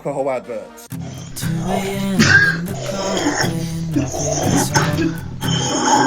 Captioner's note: slurping; laughing